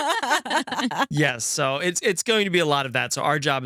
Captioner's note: laughing